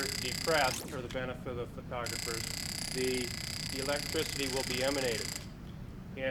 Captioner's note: taser noise; taser noise